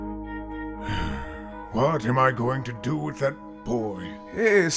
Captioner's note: long sigh